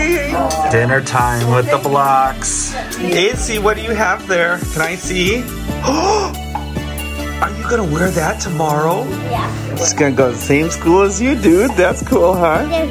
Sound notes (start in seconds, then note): 5.6 gasps